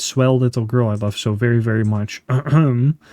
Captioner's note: ahem!